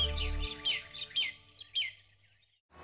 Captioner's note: birds chirping